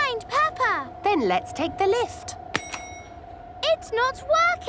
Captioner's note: lift pings